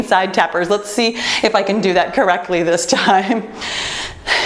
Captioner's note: laughs